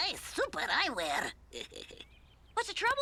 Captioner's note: Otto laughs